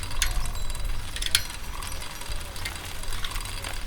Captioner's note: bicycle bells jingling